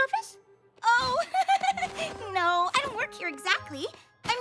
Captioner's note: giggle